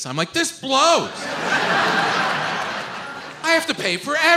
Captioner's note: audience laughs